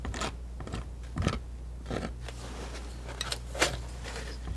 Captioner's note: scratching